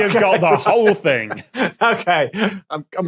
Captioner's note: laughs